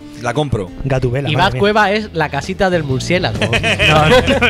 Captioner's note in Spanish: risas